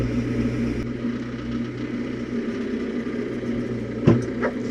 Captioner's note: logs clunking; engine humming continues